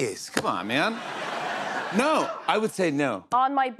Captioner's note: laughter